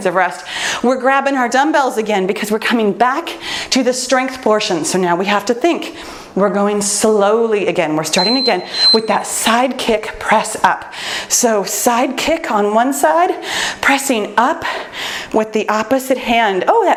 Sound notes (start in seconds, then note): 8.1 timer beeps